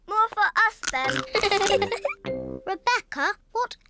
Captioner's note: giggles